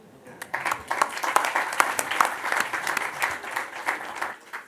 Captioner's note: audience applauds